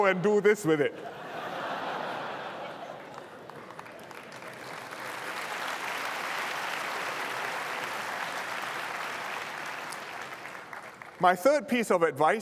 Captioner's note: laughter and applause